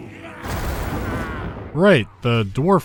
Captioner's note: thunderclap